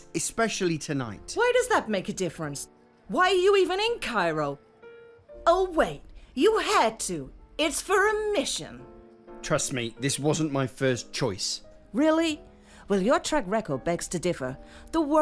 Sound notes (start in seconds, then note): 6.7 sarcastically